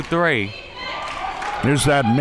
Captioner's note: claps